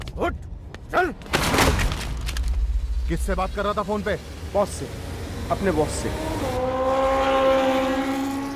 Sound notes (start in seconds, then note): 1.3 pointing guns sound; 6.4 bike revving